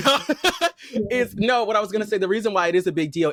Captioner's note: laughter